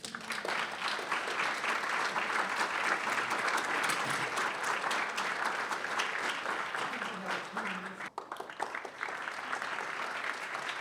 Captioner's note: applause